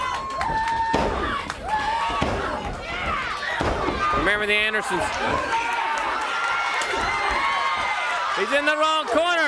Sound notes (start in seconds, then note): 2.4 crowd cheering